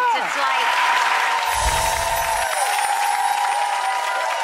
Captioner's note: audience cheering